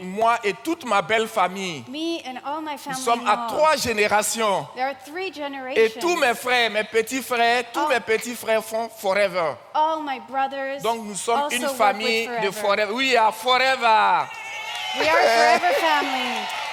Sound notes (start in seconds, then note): 0.2 continues in French; 3.3 continues in French; 7.3 continues in French; 11.9 continues in French; 13.2 audience claps and cheers